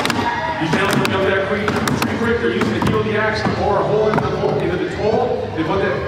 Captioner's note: male announcer calls event as crowd cheers